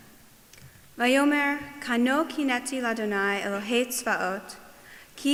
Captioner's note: speaking foreign language